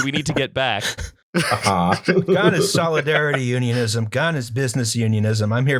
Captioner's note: laughter